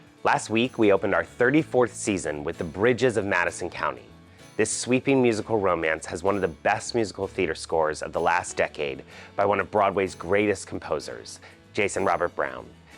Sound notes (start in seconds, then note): none